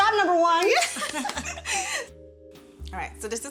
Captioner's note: laughter